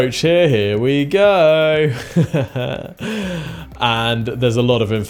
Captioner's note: laughs